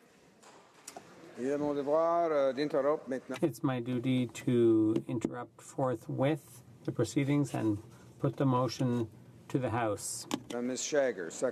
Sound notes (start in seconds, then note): 8.1 speaking in French